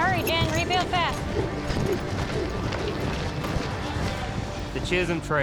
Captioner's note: hoofbeats